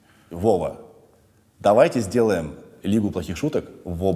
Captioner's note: none